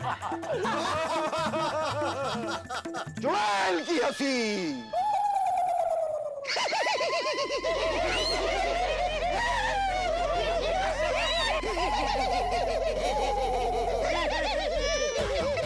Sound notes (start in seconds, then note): 6.4 laughing